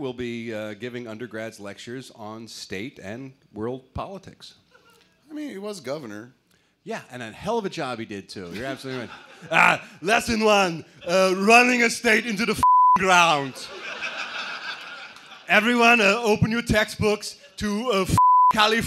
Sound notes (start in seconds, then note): 9.1 schwarzenegger voice; 13.4 laughter